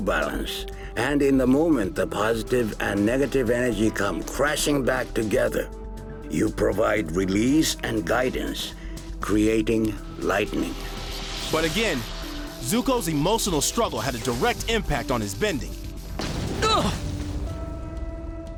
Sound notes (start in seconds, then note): 16.6 grunting